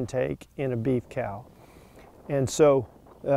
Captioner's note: wind whooshing